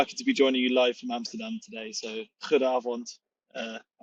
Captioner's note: speaks in Dutch